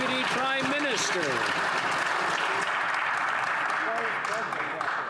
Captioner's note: applause